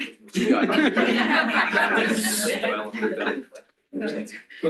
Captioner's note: laughter